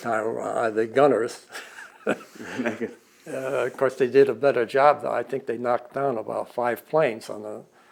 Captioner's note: both laugh